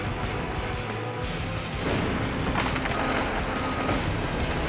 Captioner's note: crushing sounds